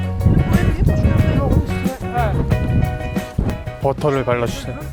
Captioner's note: ash flying everywhere from strong wind